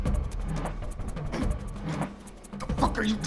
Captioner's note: Larson groaning